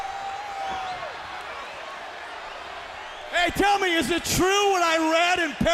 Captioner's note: crowd chatter